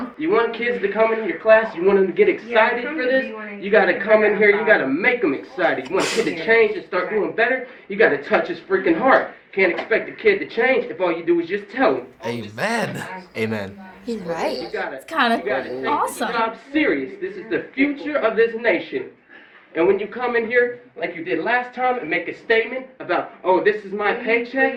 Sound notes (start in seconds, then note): 5.7 scoffs